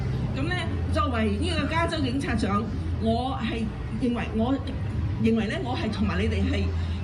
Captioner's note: speaking foreign language